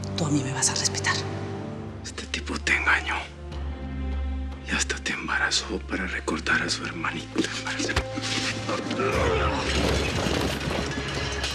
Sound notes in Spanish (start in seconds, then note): 9.3 estruendo